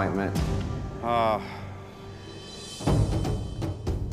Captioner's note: sighs